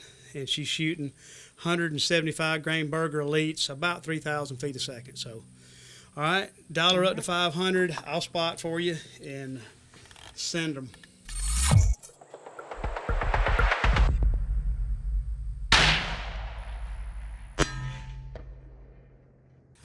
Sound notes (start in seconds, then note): 15.6 shot fires; 17.5 clang